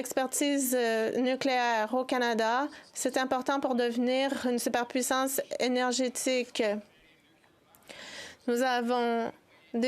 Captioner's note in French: voix de l'interprète